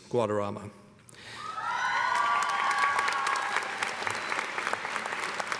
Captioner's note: cheers and applause